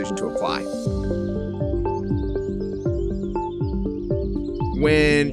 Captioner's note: bright gentle music; birds chirping